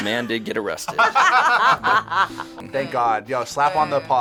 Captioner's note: laughing